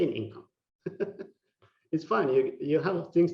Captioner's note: laughing